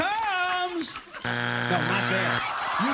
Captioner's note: buzzer